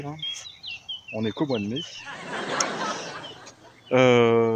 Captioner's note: laughs!